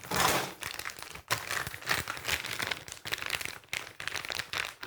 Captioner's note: clattering